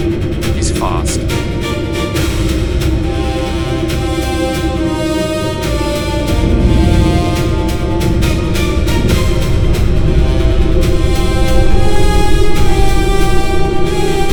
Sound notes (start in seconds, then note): 0.0 an imperial officer over radio; 1.2 a voice over radio